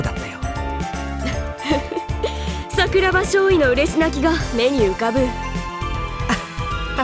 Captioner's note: chuckle; awkward laugh